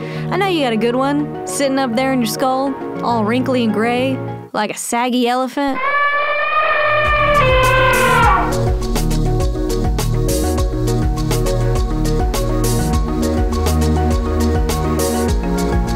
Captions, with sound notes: I know you got a good one sitting up there in your skull all wrinkly and gray, like a saggy elephant. (elephant calling) (electronic music)